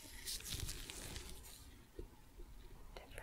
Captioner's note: sticky sounds